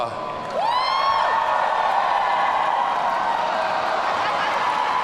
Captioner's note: audience cheering